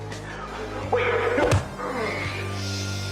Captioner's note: painful groan